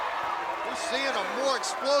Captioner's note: crowd cheering